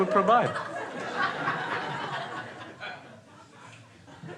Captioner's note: crowd laughing